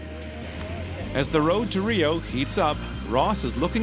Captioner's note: voiceover